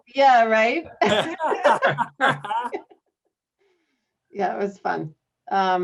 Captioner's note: laughter